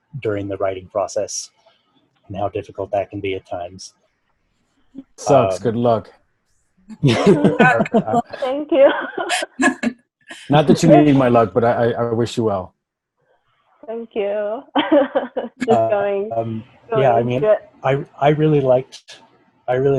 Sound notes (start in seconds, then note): 7.0 all laughing; 9.5 laughing; 14.7 laughs